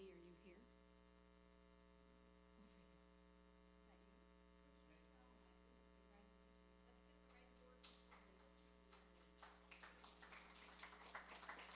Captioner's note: applause